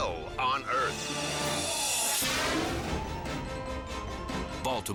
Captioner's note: scene swooshing